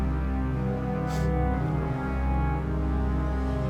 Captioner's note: dramatic music; Mia crying